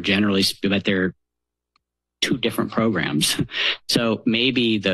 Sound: chuckles

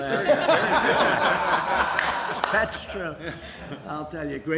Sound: laughter

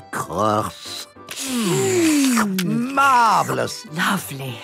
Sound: slurping

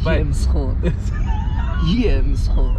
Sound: laughing

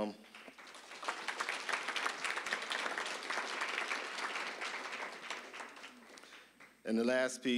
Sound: applause

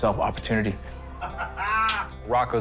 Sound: laughs

